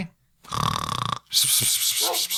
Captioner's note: snore